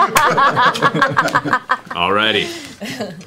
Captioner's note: laughter